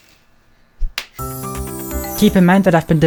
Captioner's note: cheese slaps; nice piano music